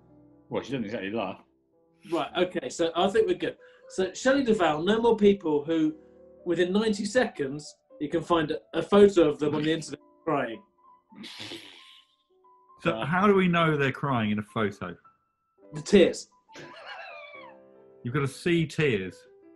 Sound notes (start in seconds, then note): 11.2 sniggering; 16.6 sniggering